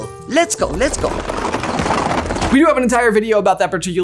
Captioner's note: chairs rattling